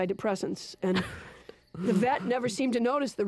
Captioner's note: chuckling